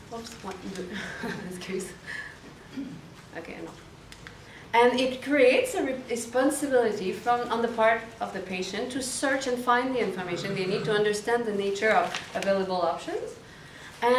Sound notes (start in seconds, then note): 1.0 women chuckle